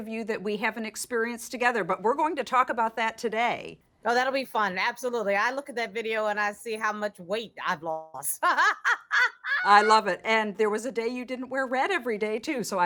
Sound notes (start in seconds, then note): 8.4 laughs